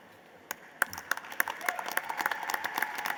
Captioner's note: applause